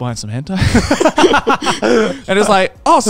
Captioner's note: laughs